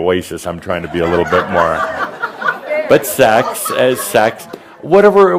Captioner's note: laughter